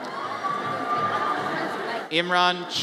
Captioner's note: audience cheers